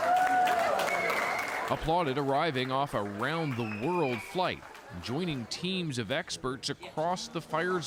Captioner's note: applause